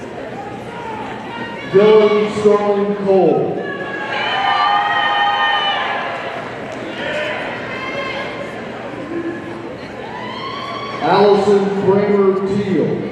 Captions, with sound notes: Dillon Sterling-Cole, (audience cheering) Alison Kramer Teal,